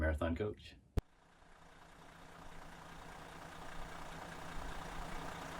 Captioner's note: engine running